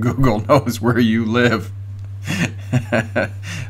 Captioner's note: laughing